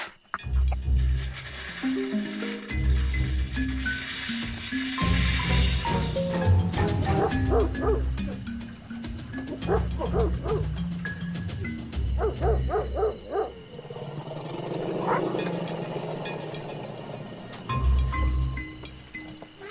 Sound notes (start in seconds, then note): 6.9 dog barking; 12.1 barking; 13.9 elephants growling